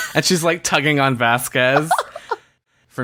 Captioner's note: laughs